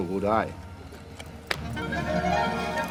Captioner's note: hands clasping